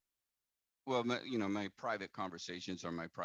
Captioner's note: speaking French